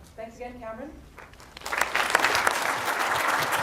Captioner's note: applause